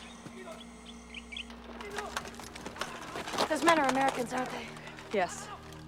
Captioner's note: distant Yelling in Korean